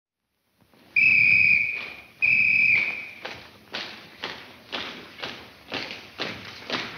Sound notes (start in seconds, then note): 0.9 whistle tweets; 2.8 footsteps marching in rhythm